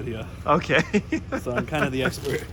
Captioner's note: laughs